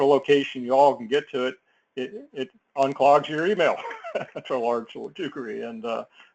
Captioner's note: laugh